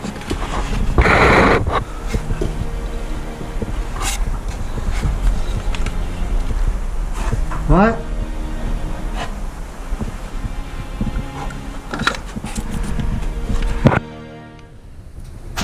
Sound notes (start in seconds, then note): 0.6 loud static; 2.6 heavy breathing; 3.9 thumping; 8.8 heavy breathing; 9.0 scraping and banging